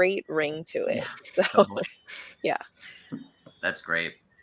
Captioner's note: chuckles